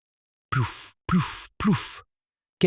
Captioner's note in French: Grognement